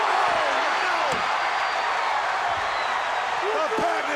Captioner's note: crowd cheering